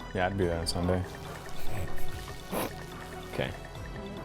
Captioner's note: grunts